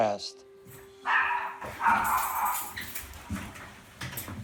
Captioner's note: dog barking